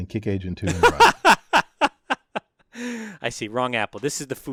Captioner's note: laugh